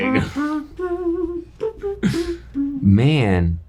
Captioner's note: humming